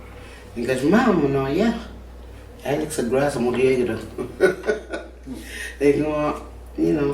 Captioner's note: laughing